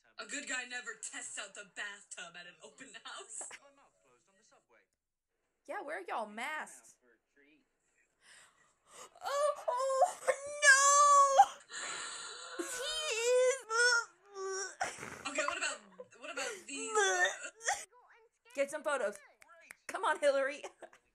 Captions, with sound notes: A good guy never tests out the bathtub at an open house yeah where y'all masks? NOOOOO (making vomit noises) What about these poses? (still fake vomiting) Get some photos Come on Hillary